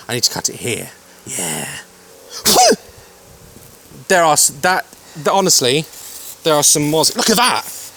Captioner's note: sneeze